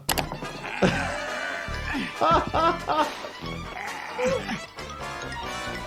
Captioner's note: laughs; Chris grunting; laughing